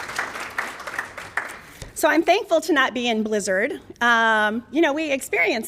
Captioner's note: applause